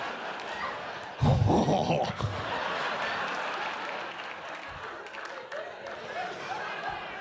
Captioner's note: laughs